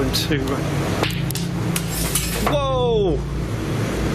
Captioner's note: clattering